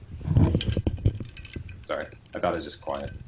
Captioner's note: various objects rustle and clink